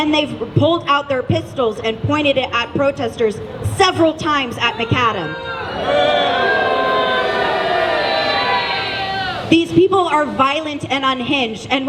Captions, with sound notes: They pulled out their p*stols and pointed it at protesters several times at Macadam (booing) These people are violent and unhinged